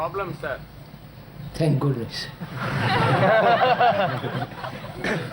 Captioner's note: laughter